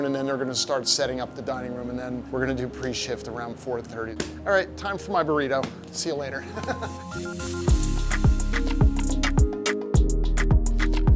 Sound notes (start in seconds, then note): 6.5 laughing; 7.9 upbeat music